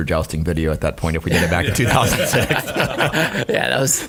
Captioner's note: laughing